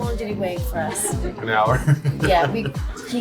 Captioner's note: laughing